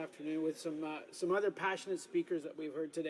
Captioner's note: speaking French